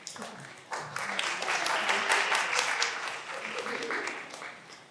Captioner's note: all applauding